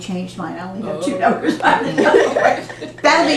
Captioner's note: laughter